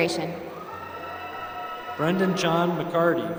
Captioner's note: applause